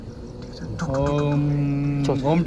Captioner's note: humming